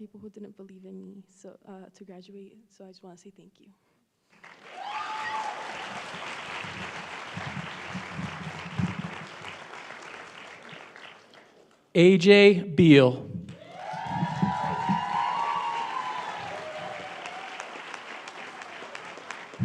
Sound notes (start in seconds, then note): 7.4 applause; 17.3 cheering and applause